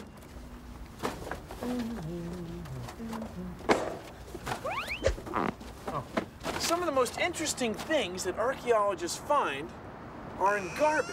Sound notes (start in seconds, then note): 1.6 <i> Bill humming</i>